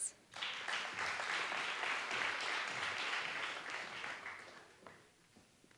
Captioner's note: applause